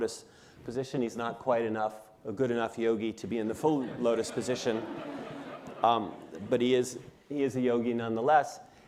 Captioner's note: laughter